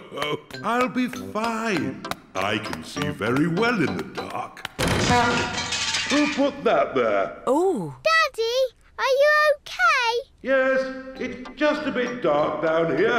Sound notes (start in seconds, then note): 4.8 crashing